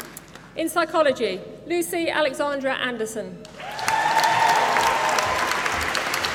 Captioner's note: applause